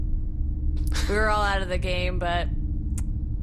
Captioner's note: Pleck laughs quietly